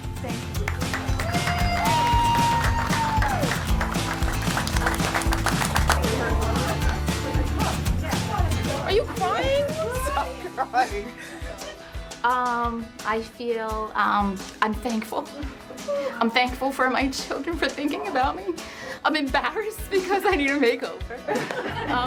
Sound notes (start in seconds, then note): 0.5 applauding and cheering; 4.8 upbeat music; 10.2 chuckles; 21.2 laughs